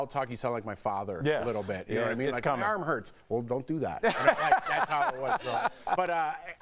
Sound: laughter

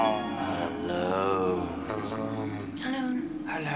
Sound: echoing

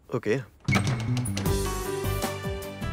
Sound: door opens

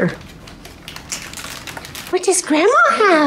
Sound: paper crinkling

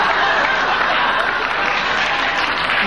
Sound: audience laughing

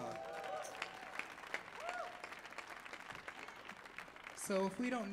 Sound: audience clapping and cheering

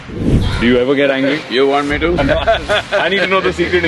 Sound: laughs

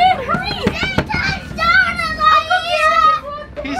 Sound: child screams

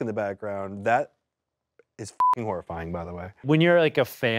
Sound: beep

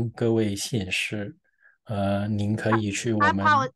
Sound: interpreter speaking in foreign language

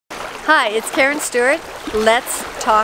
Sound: rushing water

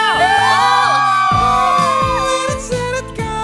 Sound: squealing

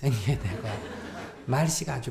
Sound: audience laughs

